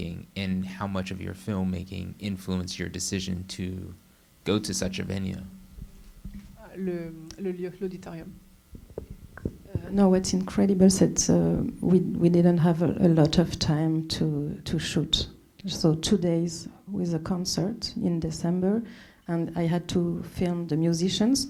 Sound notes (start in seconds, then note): 6.7 speaking French